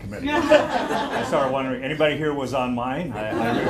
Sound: laughter

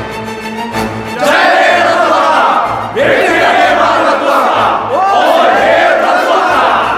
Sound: trilingual cheering

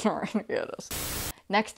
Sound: Static

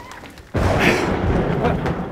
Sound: thunder booms

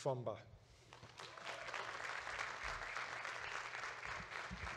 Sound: audience claps

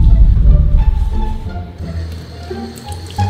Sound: water running

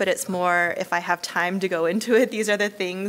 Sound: laughs

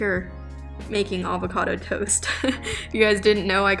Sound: chuckles

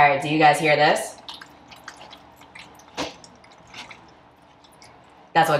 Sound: squelching

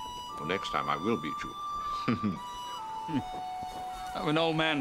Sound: chuckling

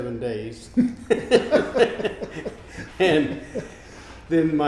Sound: laughing

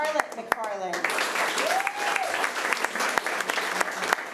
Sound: applause

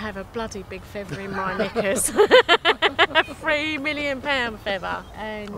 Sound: laughs

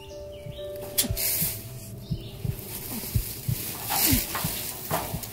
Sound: irregular heartbeats

